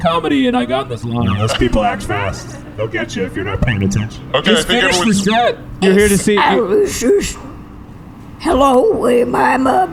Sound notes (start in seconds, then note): 6.3 calling out; 9.3 sounding very old, stuttering a bit